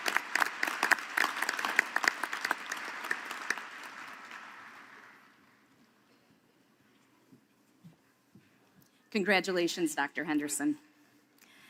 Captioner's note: applause